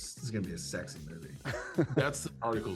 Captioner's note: chuckles